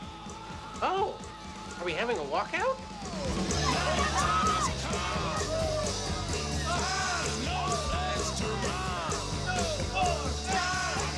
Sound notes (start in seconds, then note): 5.7 shouting and cheering